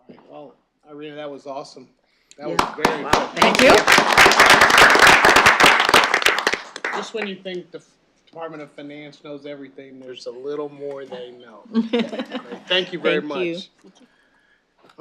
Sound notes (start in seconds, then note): 4.2 applause